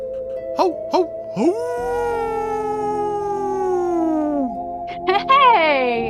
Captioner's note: howls